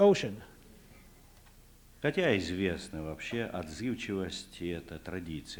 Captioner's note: non-english speech